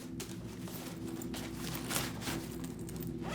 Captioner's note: backpack rustling; zipper rattling